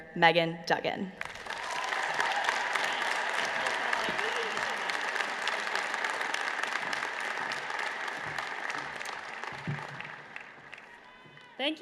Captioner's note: applause